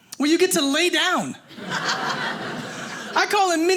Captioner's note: audience laughing